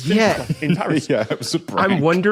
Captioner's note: laughs